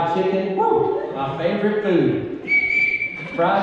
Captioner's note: whistle blows